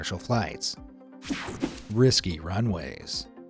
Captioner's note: graphics whooshing